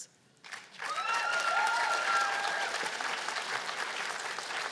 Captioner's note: cheers and applause